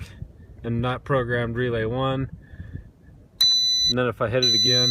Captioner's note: beeps twice